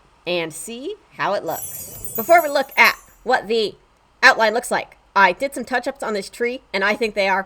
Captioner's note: chimes